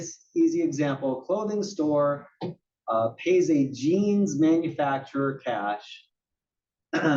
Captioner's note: cough